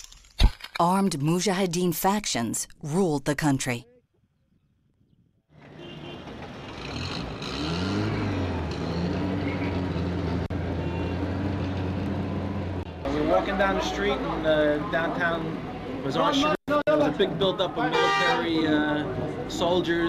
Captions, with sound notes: ARMED MUJAHIDEEN FACTIONS RULED THE COUNTRY. [ CAR HORN BEEPS ] [ ENGINE ACCELERATES ]